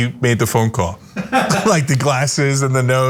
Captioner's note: laugh